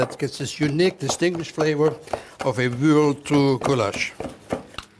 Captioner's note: stirring